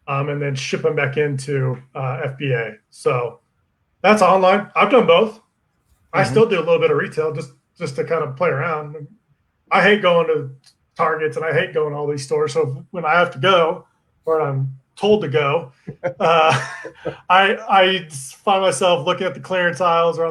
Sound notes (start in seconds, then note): 15.7 laughing